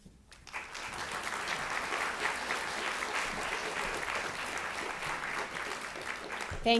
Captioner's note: applause